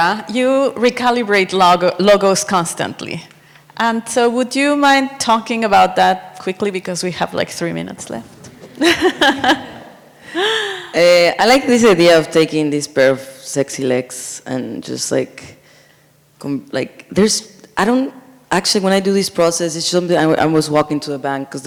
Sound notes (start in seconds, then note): 8.6 laughs; 8.7 sound of audience laughing